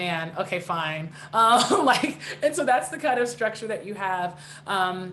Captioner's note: chuckling